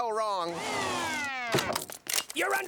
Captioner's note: siren wailing